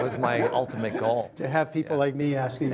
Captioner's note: laughter